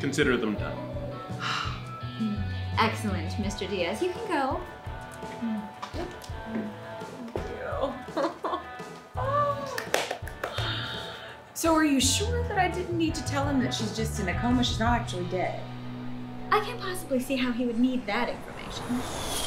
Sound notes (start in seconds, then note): 7.6 laughs; 9.6 claps; 19.2 plane engine revving